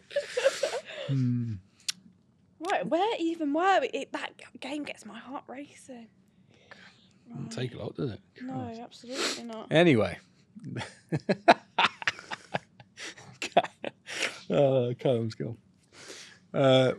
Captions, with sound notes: - 50 quid. - Right, where even, that game gets my heart racing. Right. - Doesn't take a lot, does it? - No, absolutely not. - Anyway. (laughs) Okay. Callum's gone.